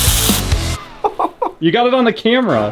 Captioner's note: spray bottle hissing; laughs